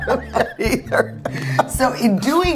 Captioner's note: laughing together